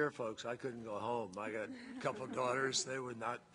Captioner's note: laughter